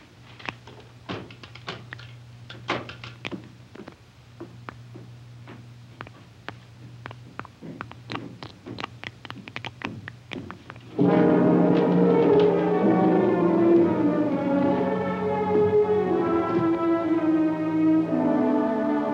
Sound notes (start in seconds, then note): 7.7 blood dripping; 10.9 dramatic music